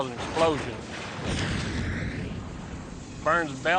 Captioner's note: explosion